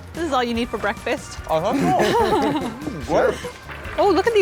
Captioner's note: laughter